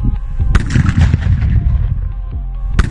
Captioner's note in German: Knall